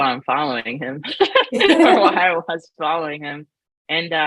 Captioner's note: laughs